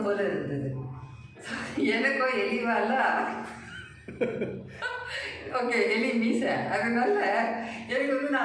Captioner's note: laughter